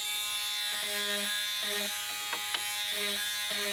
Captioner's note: sanding